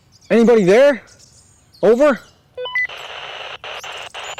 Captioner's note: radio beeps